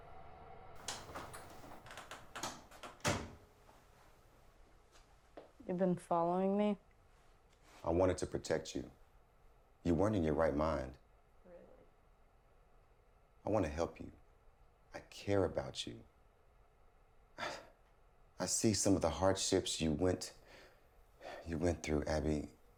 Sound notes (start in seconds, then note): 0.8 door clicks